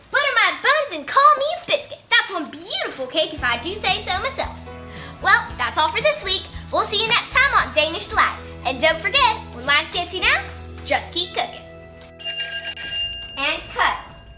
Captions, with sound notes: Butter my buns and call me a biscuit! That's one beautiful cake if I do say so myself. Well, that's all for this week. We'll see you next time on Danish Delight. And don't forget when life gets you down, just keep cooking! (bell rings) - And cut!